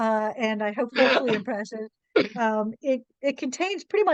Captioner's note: laughs